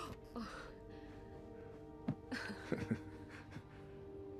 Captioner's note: chuckles